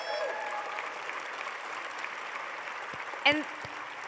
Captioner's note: applause